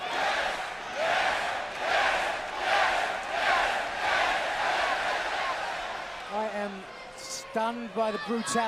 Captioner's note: crowd cheering